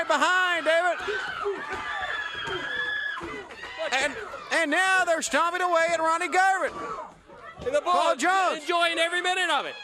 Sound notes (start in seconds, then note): 2.1 crowd cheering